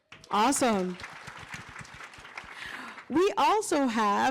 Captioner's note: applause